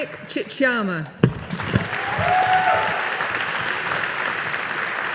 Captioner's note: audience applauding